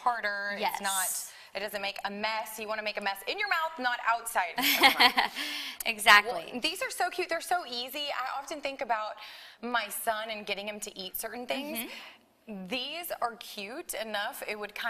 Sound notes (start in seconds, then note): 6.1 laughs